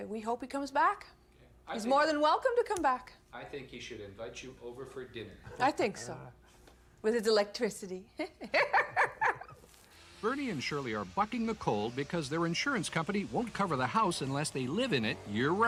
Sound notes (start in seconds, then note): 8.2 laughs